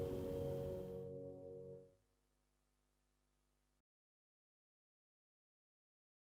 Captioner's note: silence